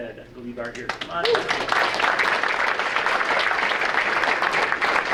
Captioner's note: audience applauding